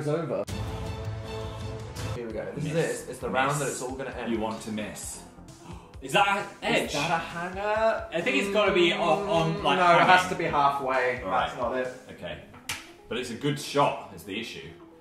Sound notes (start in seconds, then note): 0.2 intense music; 5.5 gasps